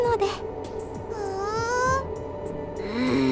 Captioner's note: interested hum; grumble